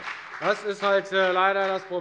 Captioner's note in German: Beifall bei der FDP